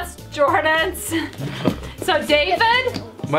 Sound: laughs

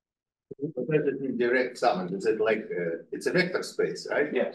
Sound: audio distorting

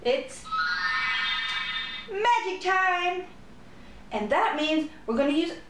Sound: magick Wand Sound; magick Harp Sound

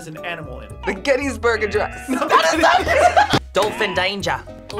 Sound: laughs

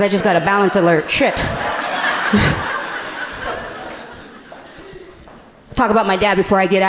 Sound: laughing

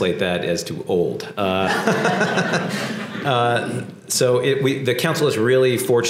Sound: laugh

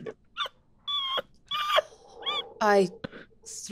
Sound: Erika laughing

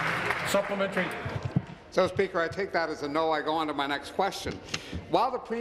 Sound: applause

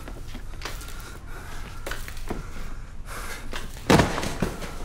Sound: heavy breathing

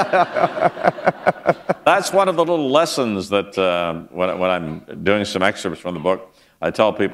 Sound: laughter

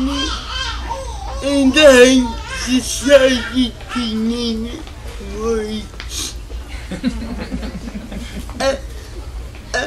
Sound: laughter

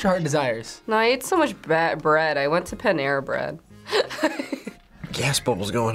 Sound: laughs

